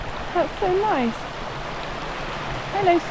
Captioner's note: water rushing